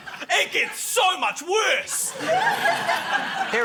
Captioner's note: laughter